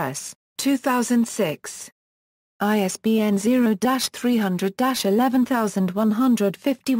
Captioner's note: German